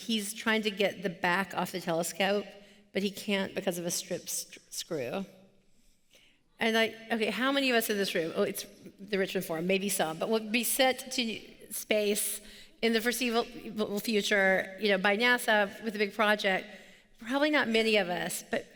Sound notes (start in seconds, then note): none